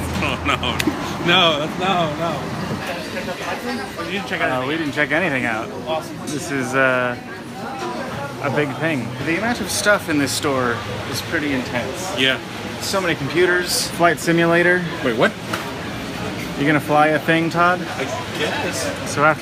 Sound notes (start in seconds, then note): 0.1 laughing; 2.8 store noises in background